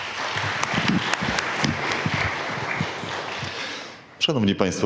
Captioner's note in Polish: oklaski